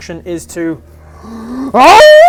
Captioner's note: breathes in